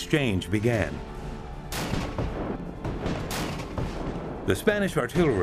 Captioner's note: gunfire